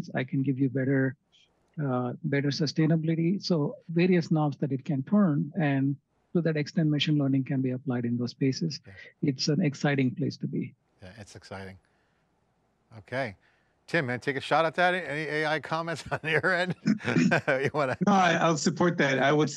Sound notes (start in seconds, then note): 17.1 laughs